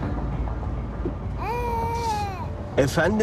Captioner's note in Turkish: Bebek ağlaması